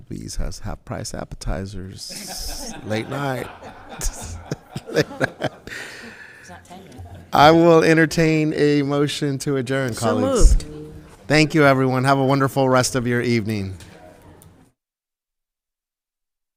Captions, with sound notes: Applebee's has half price appetizers, late night. (audience laughing) - It's not 10 yet. - I will entertain a motion to adjourn, colleagues. - So moved. - Thank you everyone, have a wonderful rest of your evening.